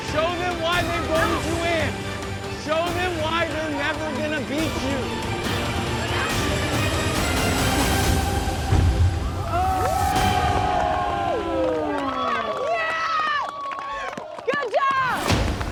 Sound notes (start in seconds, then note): 5.6 dramatic music; 9.2 crowd cheering